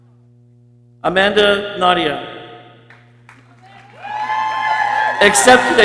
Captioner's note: people cheering